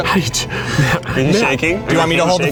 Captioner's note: breathing fast